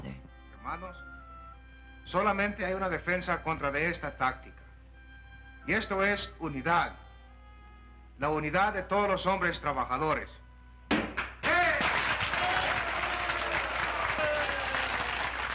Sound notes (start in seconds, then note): 1.3 Charley speaking Spanish; 10.9 Charley thumps tabletop; 11.2 crowd cheering and applauding